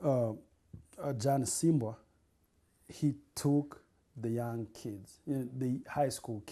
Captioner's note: non-english